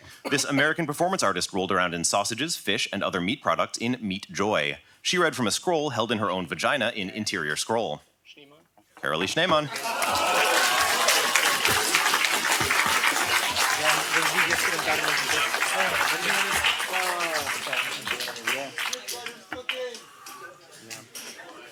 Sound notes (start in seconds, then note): 9.6 applause from the crowd